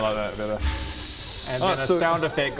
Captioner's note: ssssssscchshssssh